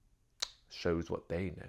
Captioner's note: lip smack